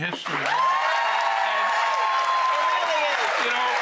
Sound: audience cheering and clapping

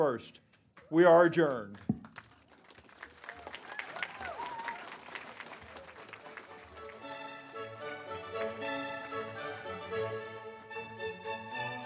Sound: applause

